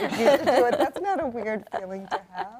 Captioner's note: group laughs